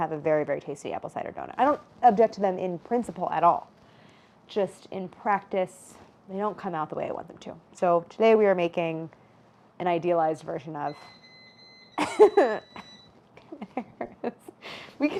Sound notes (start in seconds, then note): 10.8 gadget beeping; 13.4 Claire chuckles